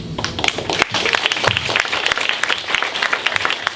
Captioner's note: clapping